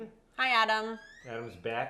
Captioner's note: door squeaks open